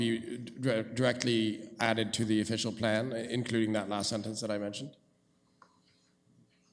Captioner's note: none